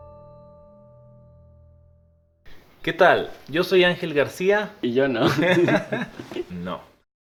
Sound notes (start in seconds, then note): 5.2 laughts